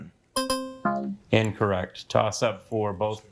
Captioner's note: buzzer beeps